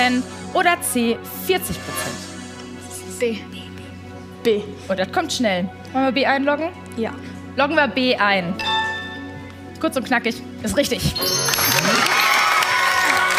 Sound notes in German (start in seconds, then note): 11.2 Applaus